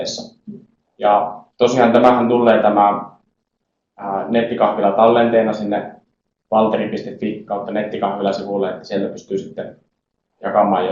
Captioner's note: in Finnish